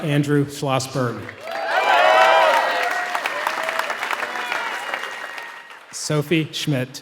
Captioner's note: applause